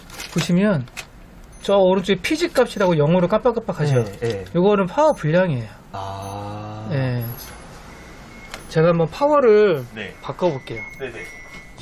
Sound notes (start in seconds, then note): 4.9 beep beep buzzer sounds simultaneously